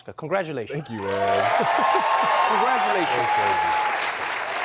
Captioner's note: cheers and applause